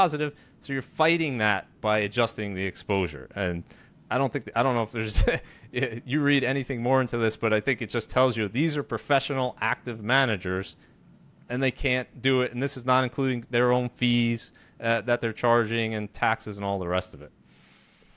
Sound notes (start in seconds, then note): 5.1 chuckles